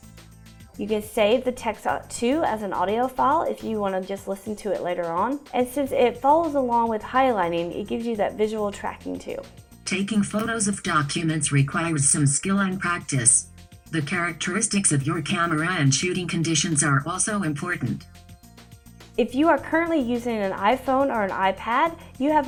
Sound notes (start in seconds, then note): 9.9 screen reader speaking